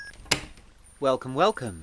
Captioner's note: door opens and Closes